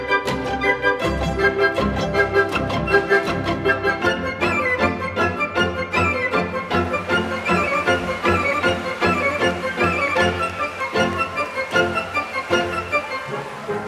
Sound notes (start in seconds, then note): 6.9 applause